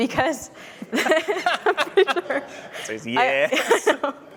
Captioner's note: laughter